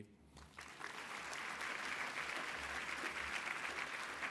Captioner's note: applause